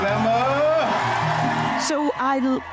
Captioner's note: cheers and applause